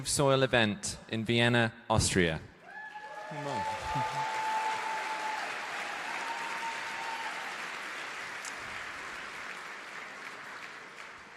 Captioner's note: cheering/Applause